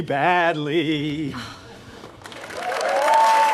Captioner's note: Elaine scoffs; audience applause